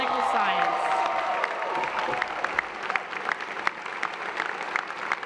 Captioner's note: applause and cheers